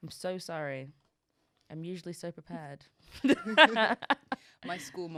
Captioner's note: both laughing